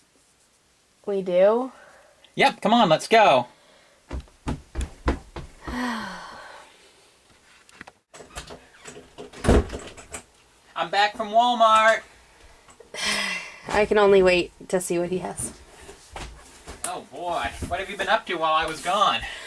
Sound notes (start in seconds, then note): 5.6 sighs; 6.0 footsteps leaving; 8.1 door Opens